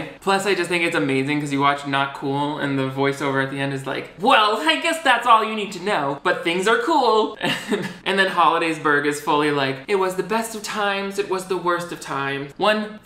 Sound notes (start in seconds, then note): 7.4 laughs